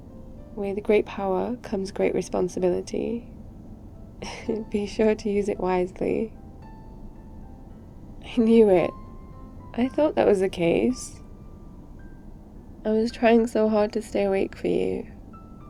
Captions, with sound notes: with great power comes great responsibility *laughs* be sure to use it wisely I knew it! I thought that was the case I was trying so hard to stay awake for you